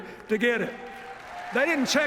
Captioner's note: cheers, applause